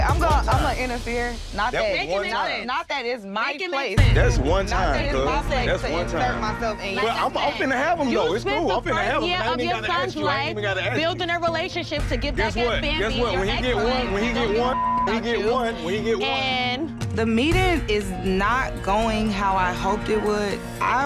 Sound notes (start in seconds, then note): 9.3 arguing